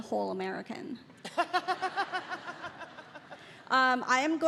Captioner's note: Bridget laughing